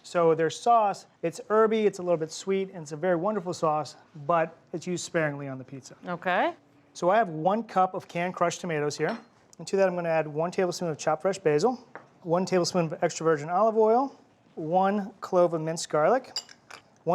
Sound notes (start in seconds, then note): none